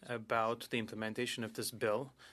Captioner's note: speaking in French